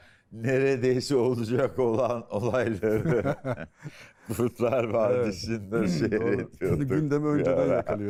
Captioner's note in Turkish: kahkaha